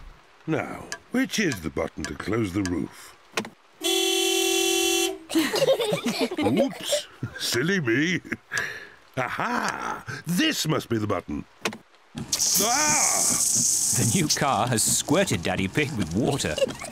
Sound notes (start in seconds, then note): 3.8 horn honks; 5.3 all laughing